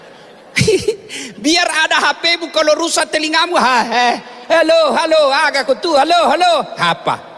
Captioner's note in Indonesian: tertawa